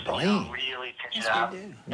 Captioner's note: on phone